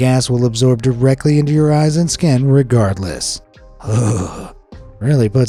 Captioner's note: shudders